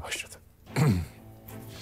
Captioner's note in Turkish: Boğazını Temizliyor